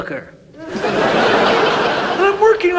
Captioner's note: audience laughs